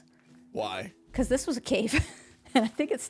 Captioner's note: laughs